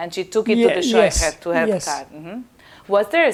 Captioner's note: yiddish